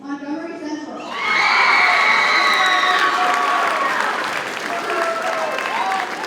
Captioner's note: audience cheers and applauds